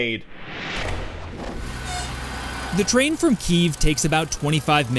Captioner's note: voice-over